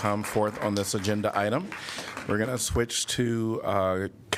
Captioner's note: applause